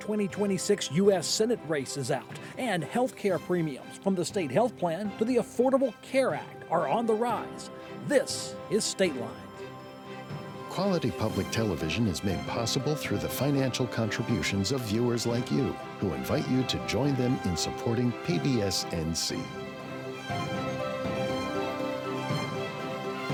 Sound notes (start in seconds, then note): 11.1 voiceover; 19.6 bright triumphant music